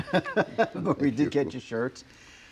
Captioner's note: laughs